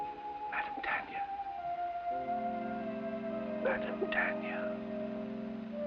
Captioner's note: o'brien whispers